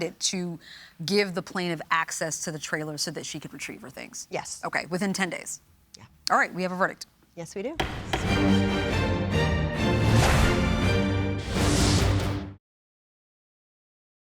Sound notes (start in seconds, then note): 7.8 gavel bangs; 7.8 dramatic music